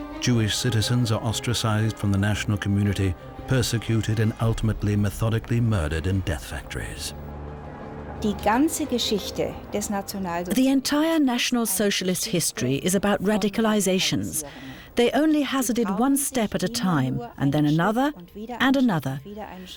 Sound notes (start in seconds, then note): 8.1 woman speaking german